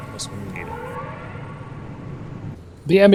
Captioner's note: klaxon Alarm